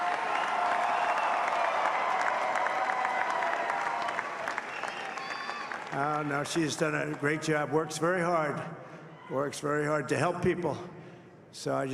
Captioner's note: cheering and applause